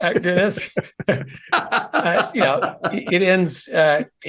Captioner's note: laugh